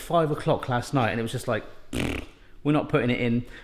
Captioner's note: farting noise